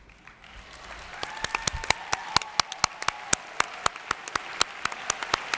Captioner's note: audience applauds